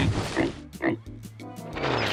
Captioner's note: oink oink